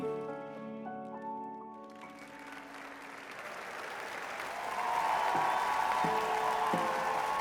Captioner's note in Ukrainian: оплески